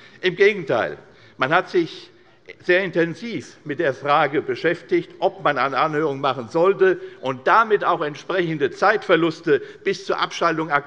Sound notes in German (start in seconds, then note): none